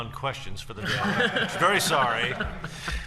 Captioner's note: laughter